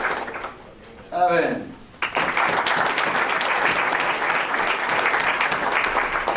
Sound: applause

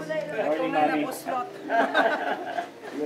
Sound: laughs

